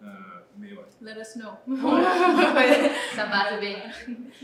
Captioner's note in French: rires